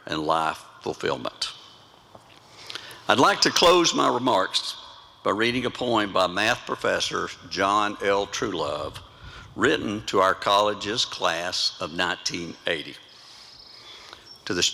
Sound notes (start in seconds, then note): none